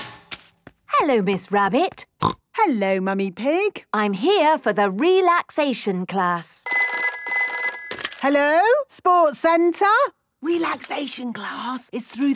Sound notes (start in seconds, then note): 1.5 snorting; 6.6 phone ringing